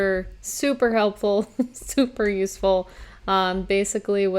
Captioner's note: chuckles